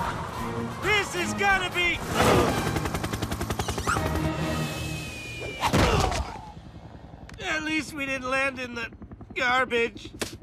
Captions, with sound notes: This is going to be-- [ALL GROAN] At least we didn't land in the garbage.